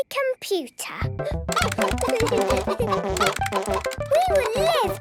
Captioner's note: computer game chickens clucking; keyboard tapping